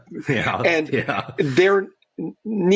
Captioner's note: chuckles